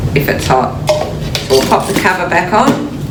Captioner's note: metal clinks